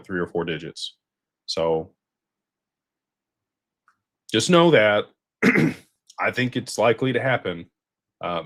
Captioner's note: clears throat